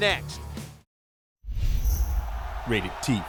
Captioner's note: crowd cheering